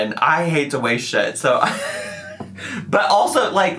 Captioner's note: man chuckling